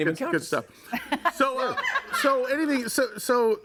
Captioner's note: laughs